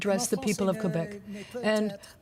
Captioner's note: speaking french